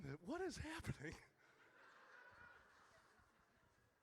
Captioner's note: audience laughs